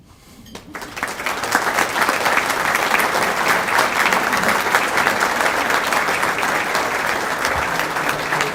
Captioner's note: applause